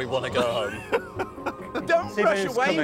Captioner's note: laughs